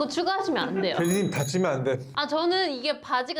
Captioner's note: jingle jingle